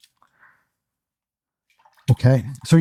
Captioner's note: silence